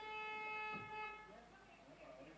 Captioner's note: car horn